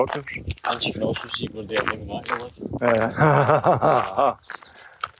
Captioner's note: laughter